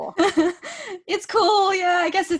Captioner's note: laughing